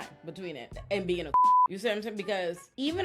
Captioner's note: beep